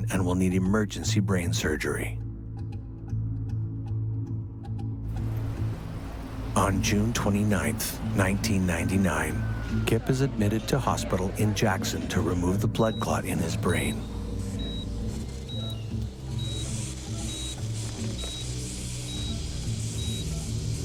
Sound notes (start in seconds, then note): 14.5 machine beeping; 15.6 dramatic music; 17.2 tools buzzing